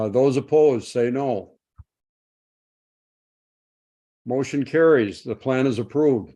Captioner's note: silence